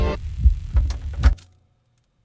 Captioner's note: heartbeats pounding; switch clicking